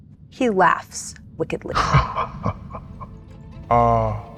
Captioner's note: laughs